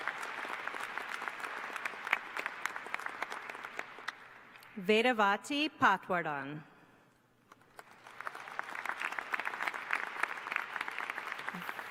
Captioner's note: applause